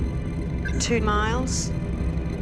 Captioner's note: radar bleeping